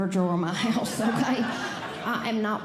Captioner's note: audience Laughing